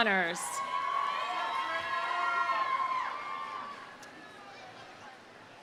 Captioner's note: audience cheering